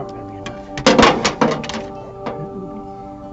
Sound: ambient music; wires clanking against metal; ambient music

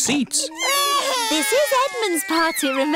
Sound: babies crying

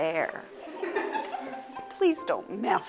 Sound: boy laughs

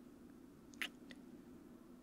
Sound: kiss

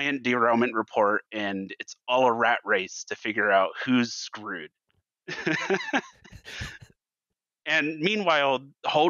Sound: laughs

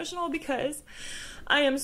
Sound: inhales

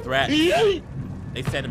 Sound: character groans

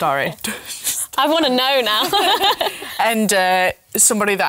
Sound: laughs

